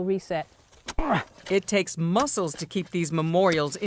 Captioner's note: grunts